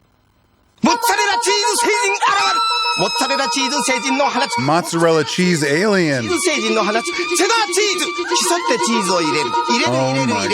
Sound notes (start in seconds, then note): 1.2 narrator speaks foreign language; 2.7 actress shouts; 3.5 narrator speaks foreign language; 6.8 narrator speaks foreign language